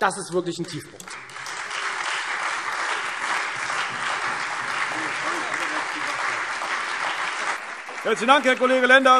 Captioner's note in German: Beifall